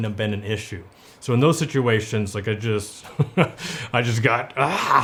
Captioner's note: chuckles